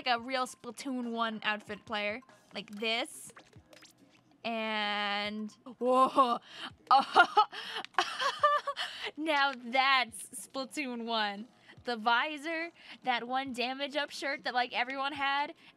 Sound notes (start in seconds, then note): 6.9 player laughing